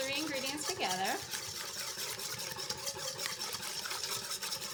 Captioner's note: stirring